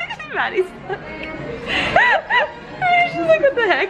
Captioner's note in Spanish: riendo; riendo